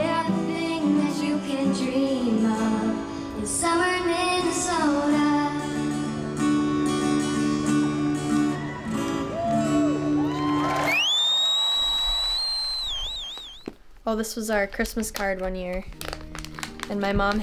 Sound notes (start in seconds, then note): 7.0 guitar playing; 10.9 crowd cheering